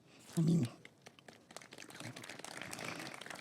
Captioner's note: applause